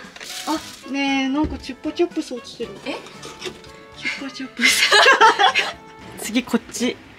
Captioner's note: laughs